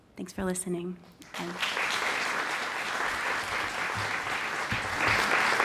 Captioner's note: applause